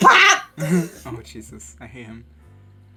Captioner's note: chuckle